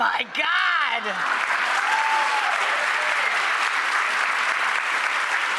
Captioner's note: applause